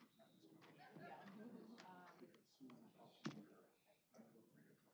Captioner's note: indistinct chatter